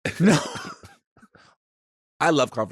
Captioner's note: laughs